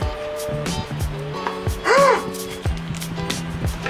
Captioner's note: gasps